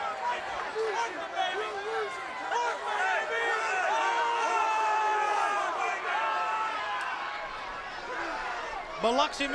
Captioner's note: crowd chatter